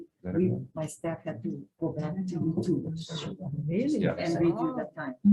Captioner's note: speaking faintly